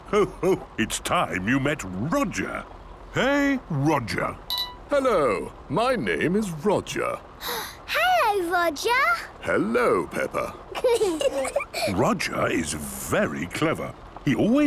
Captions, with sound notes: - Ho, ho! It's time you met Roger. Hey, Roger! - Hello. My name is Roger. - (gasps) Hello, Roger! - Hello, Peppa. - (children giggling) - Roger is very clever.